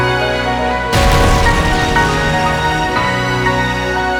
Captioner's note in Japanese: ドーン！